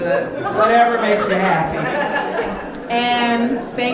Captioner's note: audience laughing